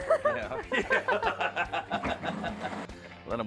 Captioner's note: laughing